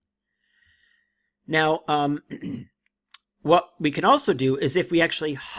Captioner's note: clears throat